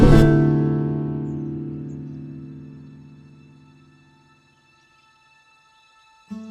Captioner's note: faint birdsong; suspenseful music